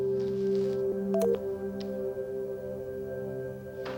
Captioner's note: button beeps